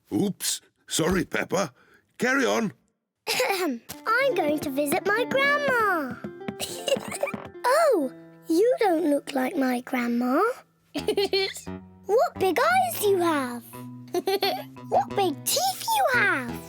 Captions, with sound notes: Oops. Sorry, Peppa. Carry on. (CLEARS THROAT) I'm going to visit my grandma. (GIGGLES) Oh! You don't look like my grandma. -(LAUGHS) -What big eyes you have! -(LAUGHS) -What big teeth you have!